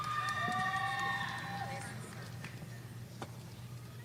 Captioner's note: audience cheering